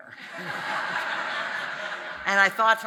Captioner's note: audience laughing